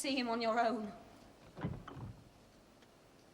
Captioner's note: door clinks